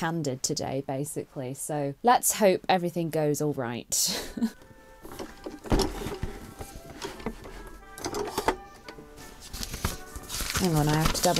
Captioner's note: chuckles; waltz music plays